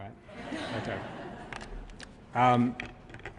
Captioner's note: laughter